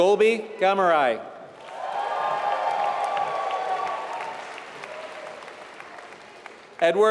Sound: applause

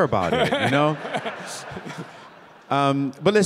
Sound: Bob laughing

